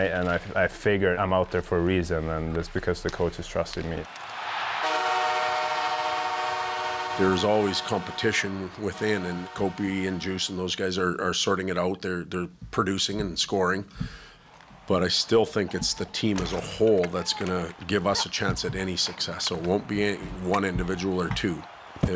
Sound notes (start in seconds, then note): 4.7 crowd cheering; 4.8 horn blowing